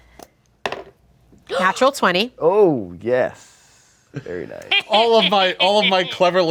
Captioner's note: dice roll